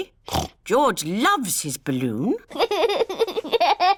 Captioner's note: snorts; laughs